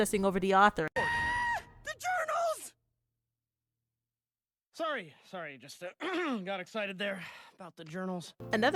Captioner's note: screaming in joy; coughs